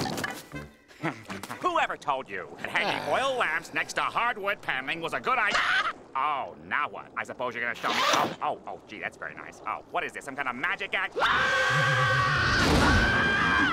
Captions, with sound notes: Whoever told you hanging oil lamps next to hardwood paneling was a good-- Oh, now what? I suppose you're going to-- Oh, gee, that's very nice. Oh, what is this? Some kind of magic act? [screaming]